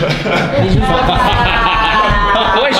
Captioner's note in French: rires